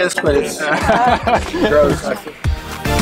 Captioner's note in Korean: 웃는다